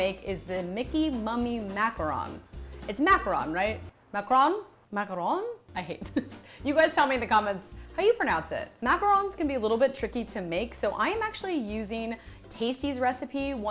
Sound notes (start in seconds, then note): 5.9 laughs